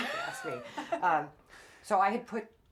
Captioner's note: both laughing